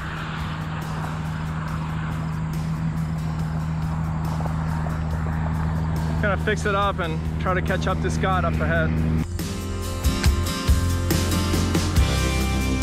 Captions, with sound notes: (engine rumbling) I got to fix it up and try to catch up to Scott up ahead. (gentle upbeat music)